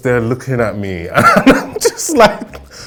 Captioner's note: laughing